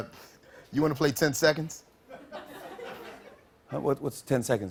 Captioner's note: light laughter